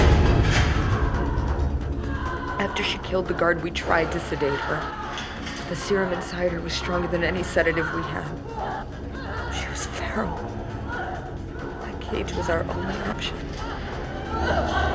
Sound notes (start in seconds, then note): 1.1 Kima yelling in the distance